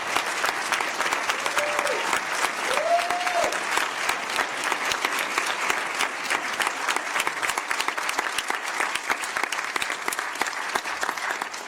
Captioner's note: cheers and applause